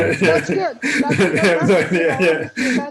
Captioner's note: laughter